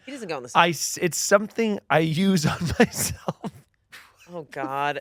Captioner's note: laughs